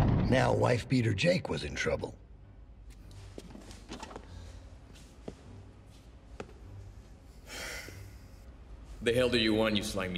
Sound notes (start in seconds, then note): 7.4 sighs